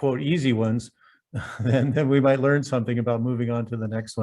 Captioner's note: laughs